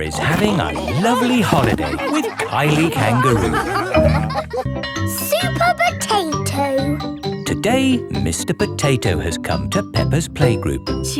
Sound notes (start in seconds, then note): 4.0 all laughing